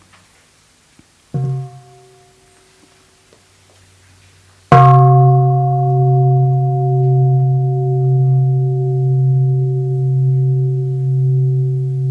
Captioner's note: sound of the bell